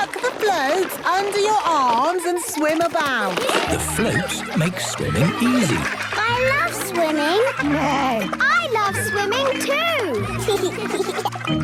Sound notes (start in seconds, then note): 7.9 neighs; 10.7 giggles